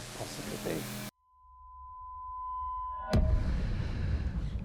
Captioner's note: static whining